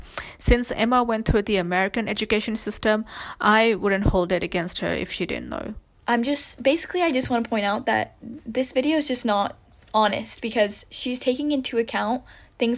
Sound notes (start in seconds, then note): none